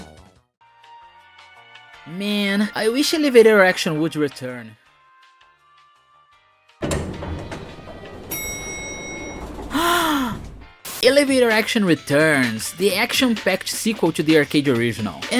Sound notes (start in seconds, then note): 6.8 sound of elevator doors opening, then a DING!; 9.7 gasp